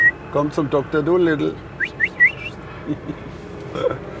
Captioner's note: he whistles; whistles